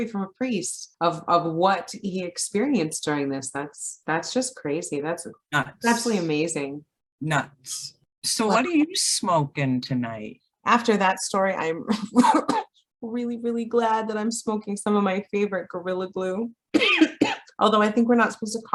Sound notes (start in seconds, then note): 12.2 coughs; 16.8 coughs